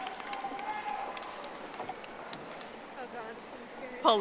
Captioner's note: audience applauding